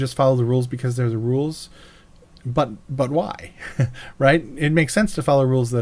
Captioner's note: laughs